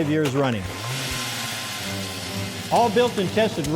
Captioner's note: drill sound